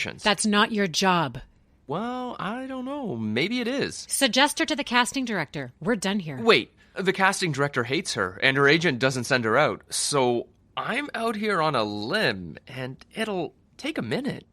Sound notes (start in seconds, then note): none